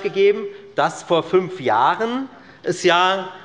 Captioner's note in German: none